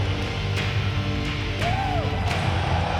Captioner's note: audience cheering; Sting screams